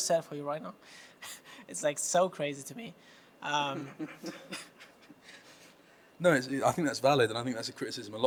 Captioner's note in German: lacht